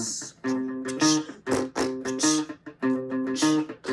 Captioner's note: beatboxing